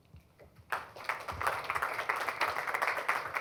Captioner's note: applause